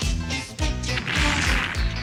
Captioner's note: explosion